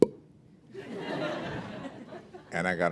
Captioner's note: laughter